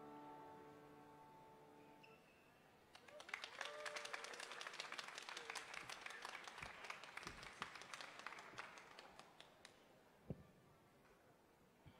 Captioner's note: applause